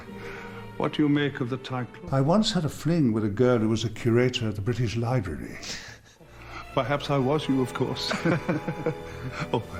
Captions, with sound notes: So, what do you make of the title? I once had a fling with a girl who was a curator at the British library. [LAUGHS] Perhaps I was you of course.